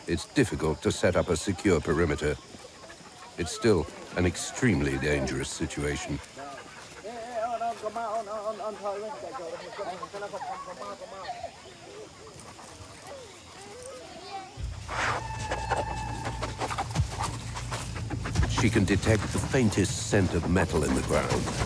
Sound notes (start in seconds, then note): 7.7 speaking foreign language; 14.6 dramatic music; 14.6 sniffing